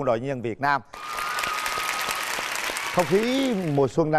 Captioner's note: applause